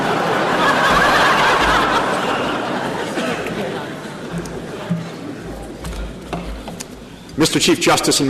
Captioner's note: laughter